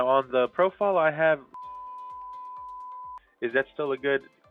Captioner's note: beeping sound